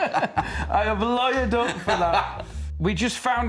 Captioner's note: laughing